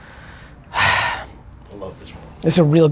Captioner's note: sighing